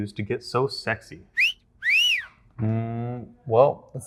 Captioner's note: whistle